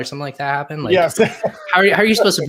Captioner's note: chuckles